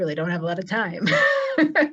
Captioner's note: laughs